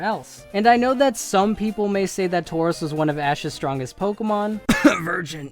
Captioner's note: cough